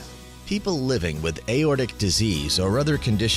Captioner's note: voiceover